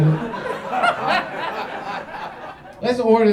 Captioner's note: audience laughs